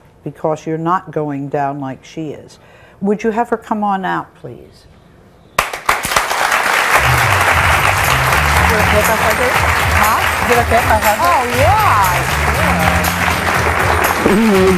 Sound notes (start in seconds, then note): 5.9 audience applauds; 7.7 upbeat music